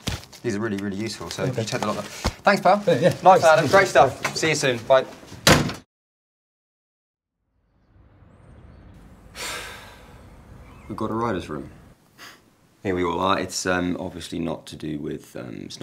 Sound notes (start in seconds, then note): 5.4 door closing; 8.0 exhaling deeply